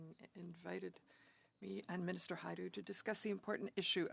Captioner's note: speaking French